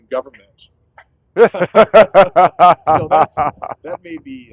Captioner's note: laughter